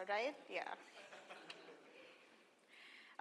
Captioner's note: laugh